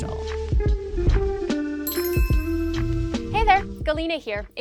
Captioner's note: relaxing music; logo chiming